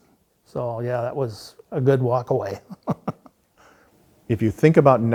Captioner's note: laughs